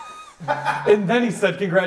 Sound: laughs

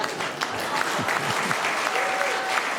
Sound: laughter; applause; laughter

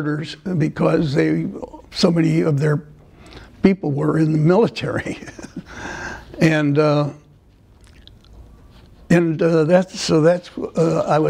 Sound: laughter

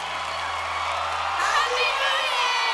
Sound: applause

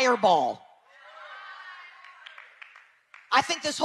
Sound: people cheering

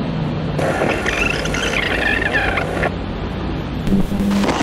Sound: tape warbles

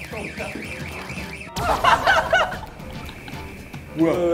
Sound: laughing out loud

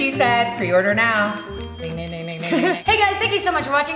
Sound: dings

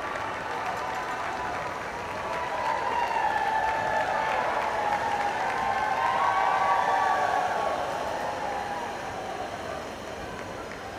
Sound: cheering; applause

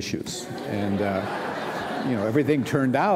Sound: laughter

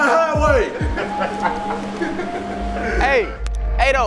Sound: laughter

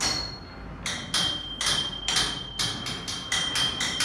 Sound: clanking

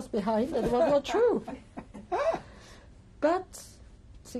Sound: laughter

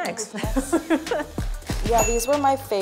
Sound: Melissa laughs

